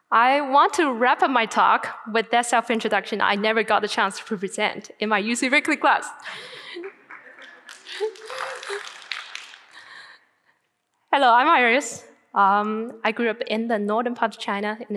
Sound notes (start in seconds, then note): 6.2 laughing; 7.4 audience cheering and applauding